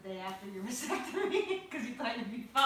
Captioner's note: laughs